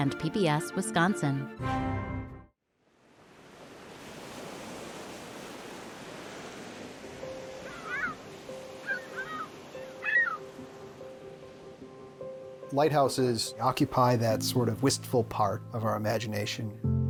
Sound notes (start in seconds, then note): 3.0 waves crashing; 7.0 delicate piano; 7.4 seagulls calling